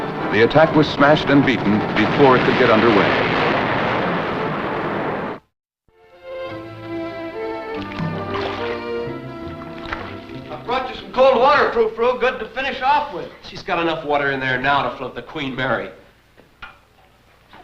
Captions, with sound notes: the attack was smashed and beaten before it could get underway. [explosion] [vintage music] - I brought you some cold water, Frour Frou. Good to finish off with. - She's got enough water in there now to float the Queen Mary.